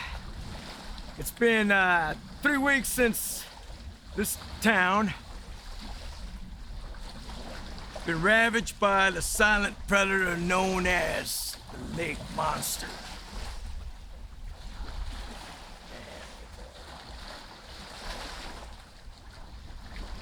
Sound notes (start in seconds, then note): 7.0 water splashing